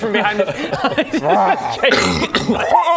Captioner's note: rwarrr